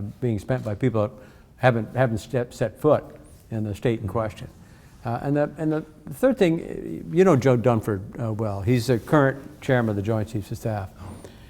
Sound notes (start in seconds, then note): none